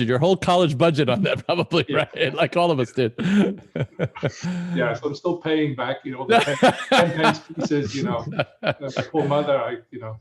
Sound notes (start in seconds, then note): 3.0 laughs